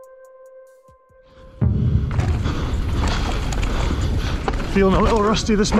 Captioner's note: heavy breathing